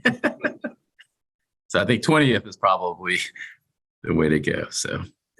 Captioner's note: laughter